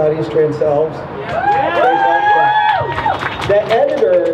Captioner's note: crowd cheers